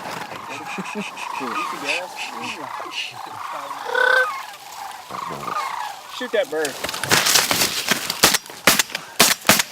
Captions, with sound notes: [crane calls] shoot that bird [gun shots]